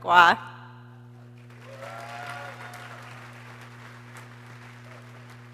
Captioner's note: people cheering